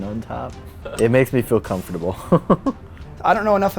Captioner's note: chuckles